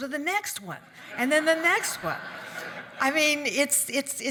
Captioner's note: audience laugh